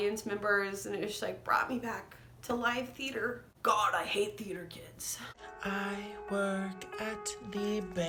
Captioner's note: that tiktok sound